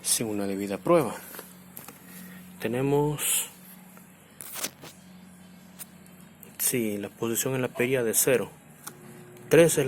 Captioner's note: fan off